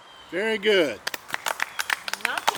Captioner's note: all clap